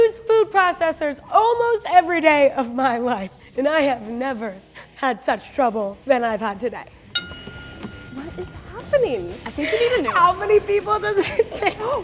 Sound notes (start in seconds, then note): 7.1 ding